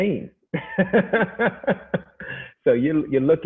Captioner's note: laughing